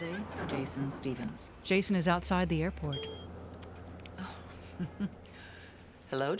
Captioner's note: beeps; chuckling